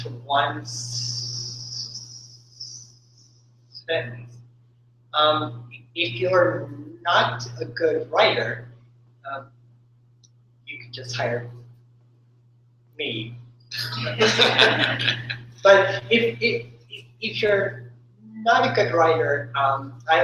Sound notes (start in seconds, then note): 14.0 laughter